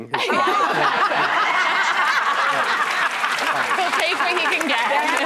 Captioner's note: audience laughing